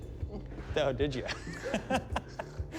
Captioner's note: chuckles